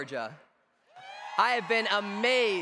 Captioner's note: cheers